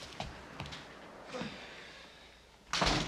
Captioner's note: Seymour sighs